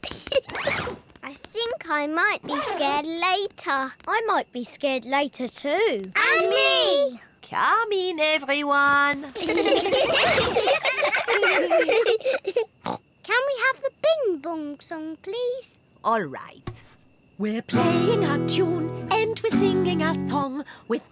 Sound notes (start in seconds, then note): 0.0 giggles; 9.3 all giggling; 12.5 snorts